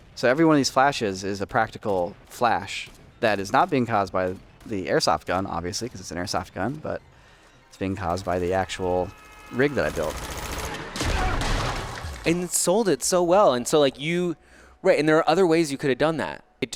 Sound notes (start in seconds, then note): 9.8 gun rattling; 11.1 gunshots blasting